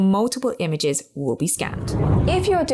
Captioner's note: video effect whooshes